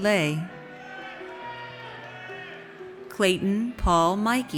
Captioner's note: audience cheers